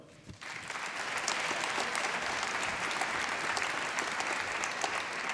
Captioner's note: applause